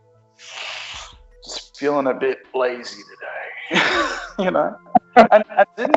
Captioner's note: laughs